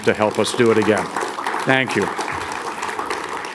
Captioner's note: audience applauds